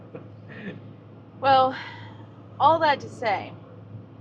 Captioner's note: sigh